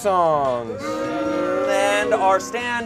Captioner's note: audience boos